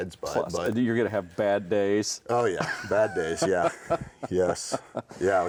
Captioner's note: chuckling